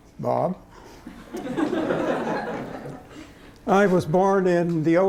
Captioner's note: laughter